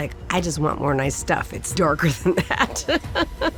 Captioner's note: laughs